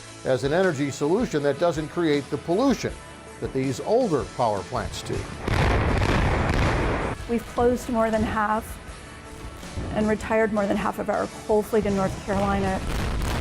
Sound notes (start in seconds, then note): 5.4 loud explosion